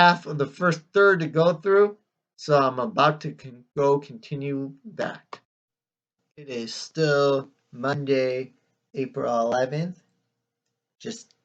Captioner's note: click